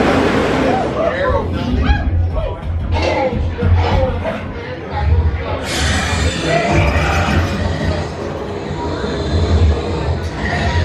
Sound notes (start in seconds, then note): 0.0 people conversing softly; 0.0 rollercoaster whirring; 0.1 crowd whooping; 3.2 velociraptor calling; 5.6 velociraptor snarling